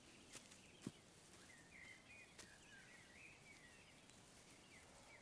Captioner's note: birds singing